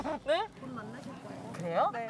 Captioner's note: patting